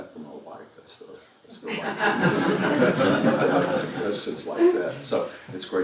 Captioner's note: laugh